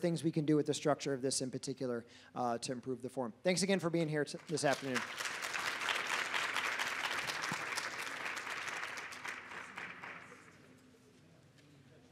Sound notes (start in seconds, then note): 4.4 audience applauds